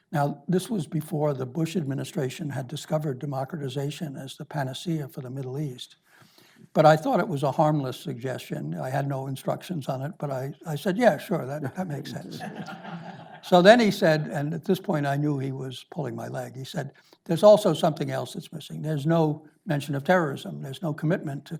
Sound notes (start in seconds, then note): 11.6 audience laughs